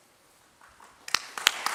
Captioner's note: applause